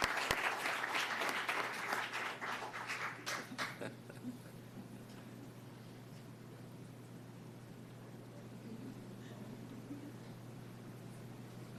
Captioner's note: applause